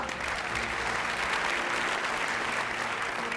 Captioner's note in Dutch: applaus